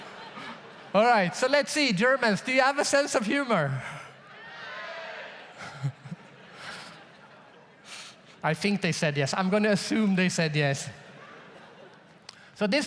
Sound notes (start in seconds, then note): 4.2 germans cheering; 5.5 audience laughs; 11.0 audience laughs